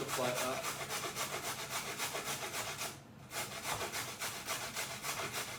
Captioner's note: carrots scraping